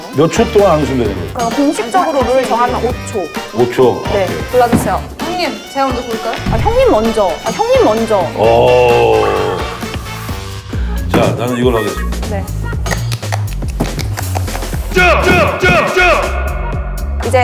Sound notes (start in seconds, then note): 12.8 clapping